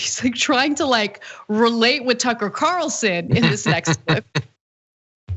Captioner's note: laugh